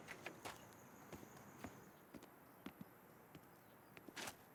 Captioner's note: footsteps; gate locking